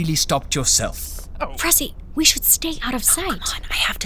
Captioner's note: whispering